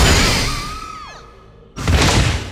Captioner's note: screaming